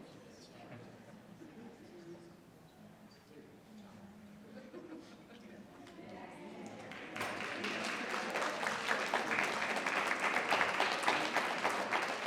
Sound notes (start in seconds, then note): 6.7 attendees applauding